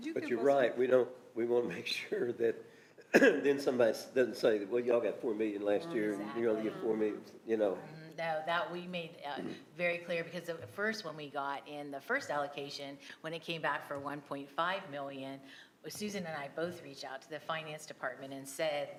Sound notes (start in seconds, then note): 3.0 coughs; 5.7 others agreeing